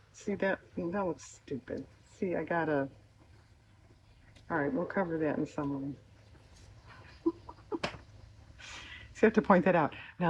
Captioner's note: laughs